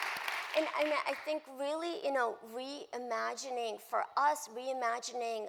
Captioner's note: applause